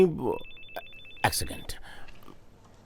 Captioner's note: phone ringing